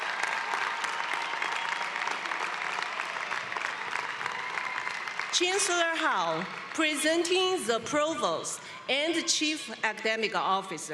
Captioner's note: applause